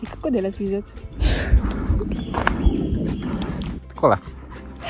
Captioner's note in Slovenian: spet zvok svizca v ozadju